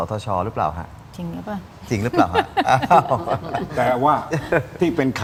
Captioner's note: laughs